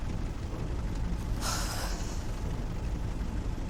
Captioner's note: sighs